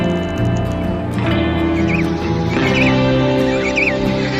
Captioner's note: chirping